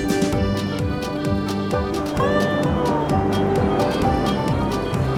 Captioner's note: lively music; ocean waves crashing